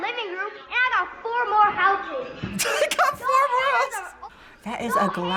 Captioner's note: laughs